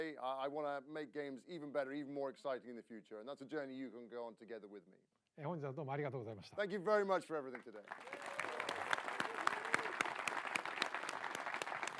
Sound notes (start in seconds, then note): 7.5 applause